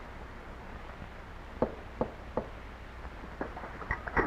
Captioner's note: knocking